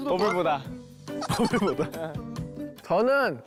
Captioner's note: laughter